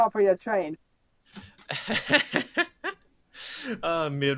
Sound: laughs in nervous foreshadowing

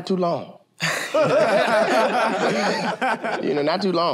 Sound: laughter

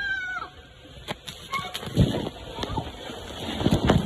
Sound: screams again

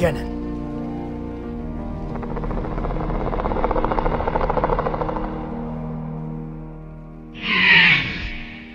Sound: dinosaurs grumbling

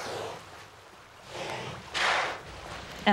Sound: orca whale blows

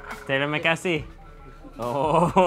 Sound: speaks in foreign language

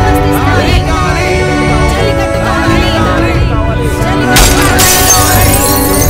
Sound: crowd Protesting

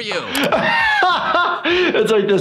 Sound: laughs

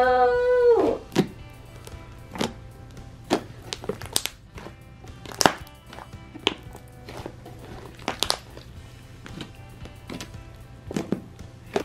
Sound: popping sounds

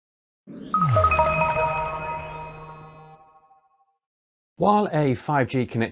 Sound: bright electronic chime

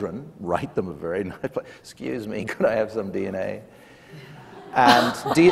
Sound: laughs; laughter

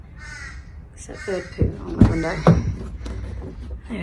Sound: loud crow is loud; door handle clunks as door is opened

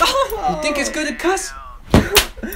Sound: whip sound

